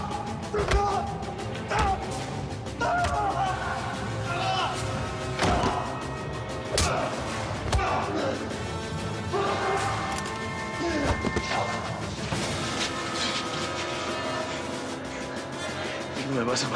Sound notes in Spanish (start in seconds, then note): 0.1 Quejidos; 5.8 Ruido al caer; 7.6 Golpes; 7.7 Quejidos